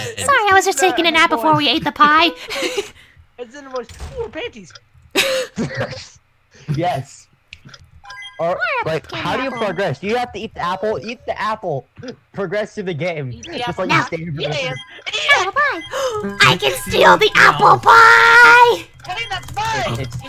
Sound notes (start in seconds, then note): 15.9 gasps; 18.9 In Froze’s voice